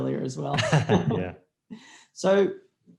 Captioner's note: laughs